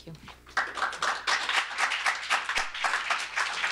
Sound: applause

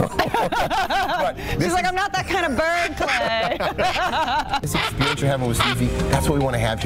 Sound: laughter

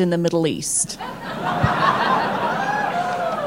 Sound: laughter

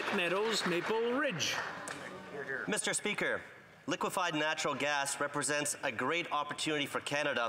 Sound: some Applause

